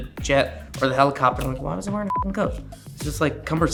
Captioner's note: beep